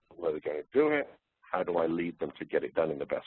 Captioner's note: distorted audio